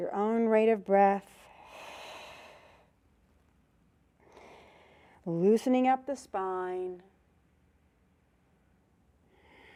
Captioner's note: breath sound